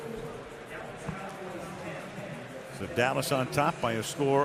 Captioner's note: pa announcement